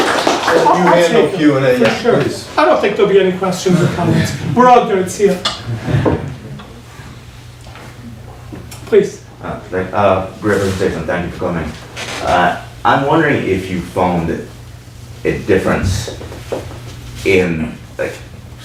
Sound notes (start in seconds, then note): 1.2 overlapping muttering; 5.6 laughing